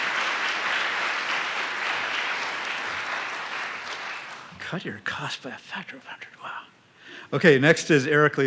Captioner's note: applause